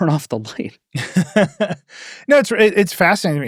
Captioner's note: laughs